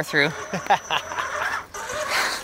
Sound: laughs

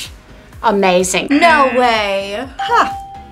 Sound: scoffs; bell rings; buzzer rings

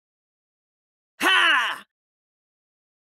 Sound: sound of fighting man voice

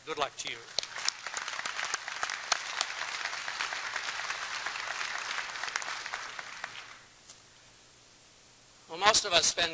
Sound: applause

